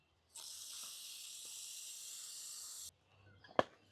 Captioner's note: sizzling